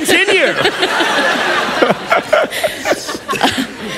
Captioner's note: laughter